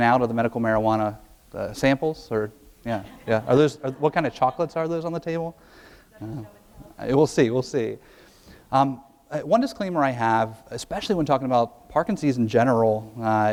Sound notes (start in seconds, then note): 2.9 audience laughs